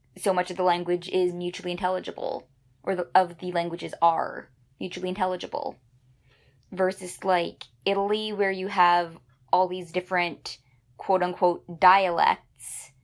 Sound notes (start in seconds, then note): none